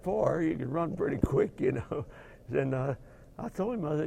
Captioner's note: laugh